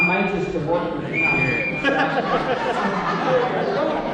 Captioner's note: whistle blows